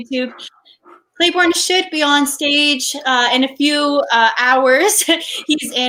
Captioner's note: laughs